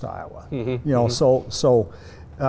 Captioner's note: laughing